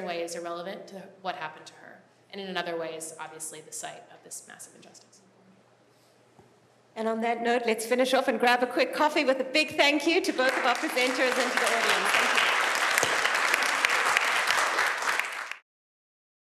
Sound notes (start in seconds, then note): 11.9 applause